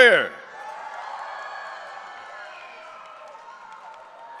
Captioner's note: audience cheering